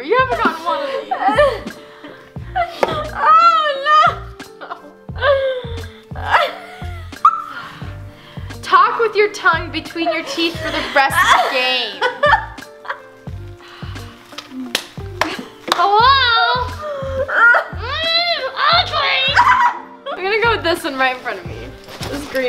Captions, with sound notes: You haven't gotten one of these! - Oh, no! (laughs) - "Talk with your tongue between your teeth "for the rest of the game." (laughs) (clapping) Hello! (laughs) My name is Audrey! - I'm gonna go with this one right in front of me.